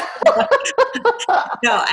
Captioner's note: laughs